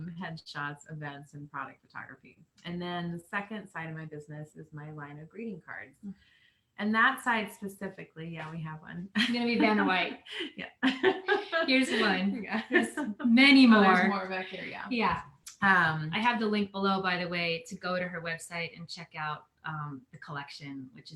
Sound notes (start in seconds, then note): 10.4 laughing